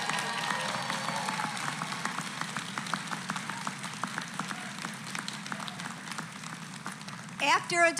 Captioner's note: applause